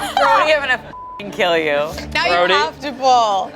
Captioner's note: laughs; beeps